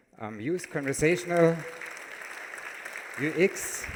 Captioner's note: applause